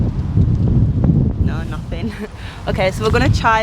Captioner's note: ha ha